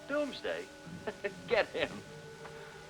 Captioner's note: chuckles